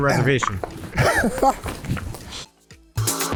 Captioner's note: laughs; upbeat music